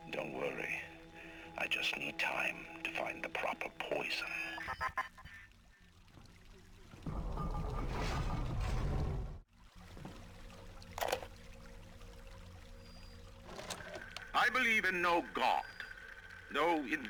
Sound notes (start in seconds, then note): 4.4 chuckling; 9.5 water splashing